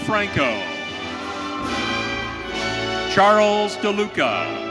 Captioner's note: audience cheering